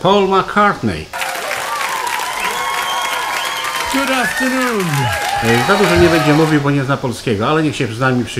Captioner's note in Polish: Aplauz